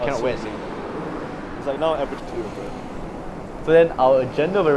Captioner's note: indistinct chatter